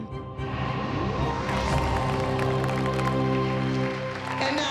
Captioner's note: applause